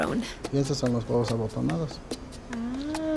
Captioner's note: speaking Spanish